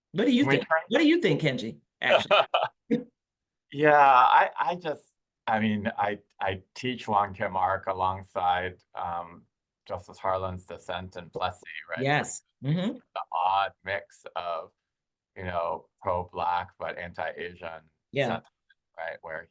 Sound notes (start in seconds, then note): 2.0 laughing